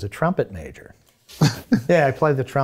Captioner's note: chuckles